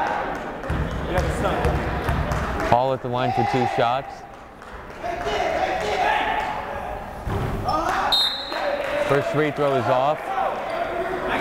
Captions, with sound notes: Hall at the line for two shots. (yelling) (whistle blowing) First free throw is off.